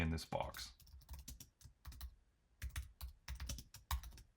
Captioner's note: keyboard clacking